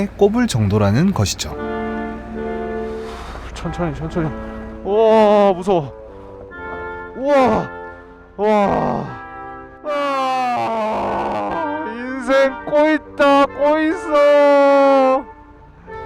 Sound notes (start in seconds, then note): 7.1 scream; 9.8 shriek